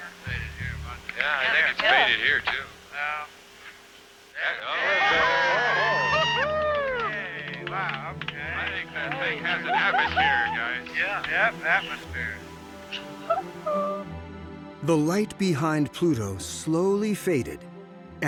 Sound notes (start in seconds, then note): 4.4 all cheering; 13.2 woman cheers